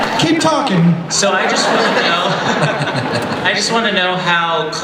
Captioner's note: laughter; voiceover